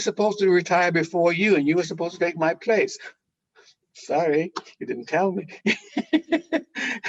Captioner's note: laughing